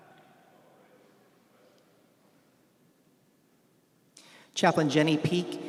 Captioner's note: commander speaking faintly